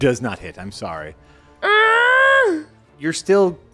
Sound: The girl from Bluey is upset and grunts

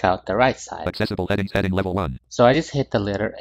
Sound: screen reader voice

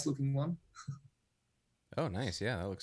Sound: laughs

